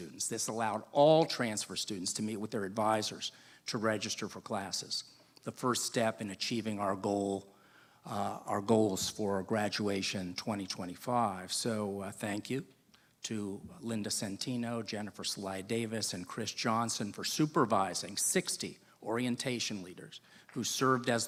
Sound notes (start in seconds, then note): none